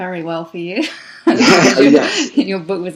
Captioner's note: laughs